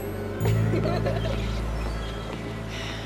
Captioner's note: girls laughing